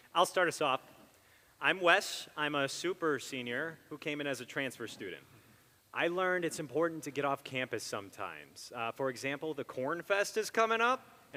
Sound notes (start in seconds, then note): none